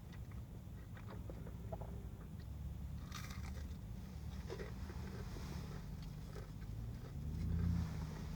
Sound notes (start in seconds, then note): 3.1 gentle biting noise; 6.0 yet more chewing noises